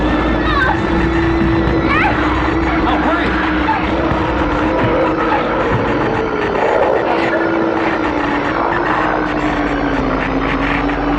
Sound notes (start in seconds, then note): 0.4 screaming; 5.3 alien growls; 5.3 mechanical buzzing